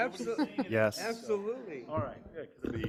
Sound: board member laughs

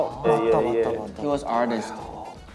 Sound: speaking in Korean

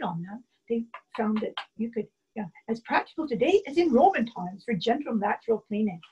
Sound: taps box

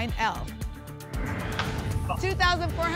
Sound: whoosh

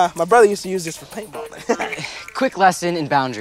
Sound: laughs

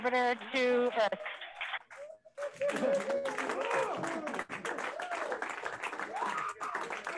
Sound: scientists cheering

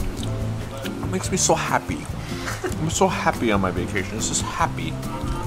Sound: laughs

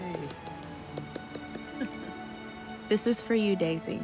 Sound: all clapping

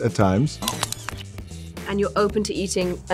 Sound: crunching

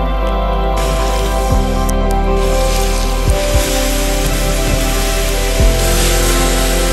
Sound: hissing sound from water on the coals

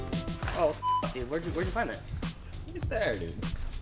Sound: beep

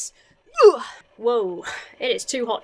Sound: grunts

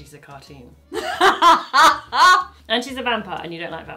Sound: laughing

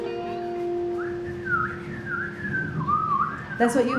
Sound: whistling

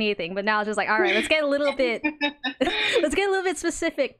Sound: laughs

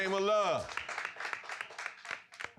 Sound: applause

